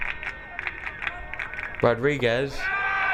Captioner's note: crowd clapping